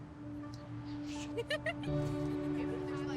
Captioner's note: soft tense music; laughing